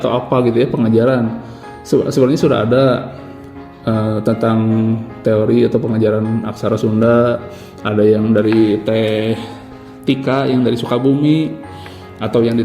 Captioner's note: Indonesian